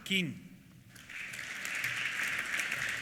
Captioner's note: applause